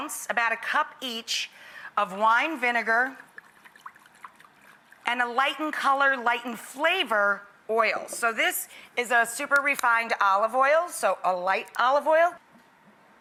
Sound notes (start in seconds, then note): 3.0 liquid sloshing